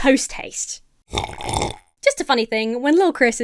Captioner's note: Emma sips coffee loudly